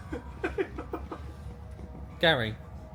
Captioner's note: laughing